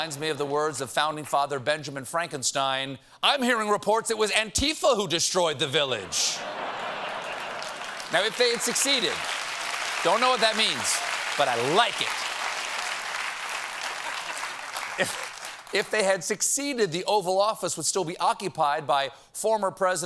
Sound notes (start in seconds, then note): 6.0 laughter; 11.5 applause